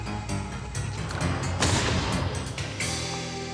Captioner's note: gun shot